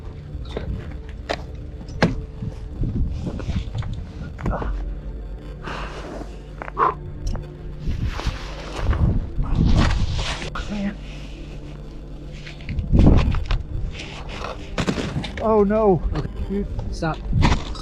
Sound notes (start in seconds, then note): 2.5 metal equipment clanking; 7.8 snow crunching; 11.3 muttering; 14.7 timber crashing